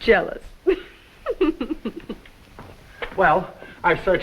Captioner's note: Olga laughs